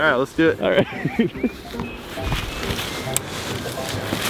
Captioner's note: laughing